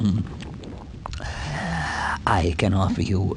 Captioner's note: inhale